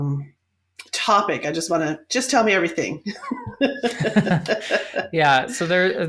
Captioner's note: laughs